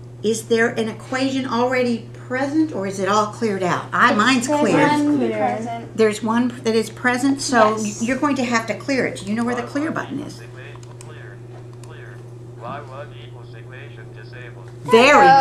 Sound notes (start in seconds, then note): 10.5 calculator Sounds